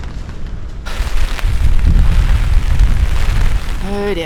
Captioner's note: wind & rain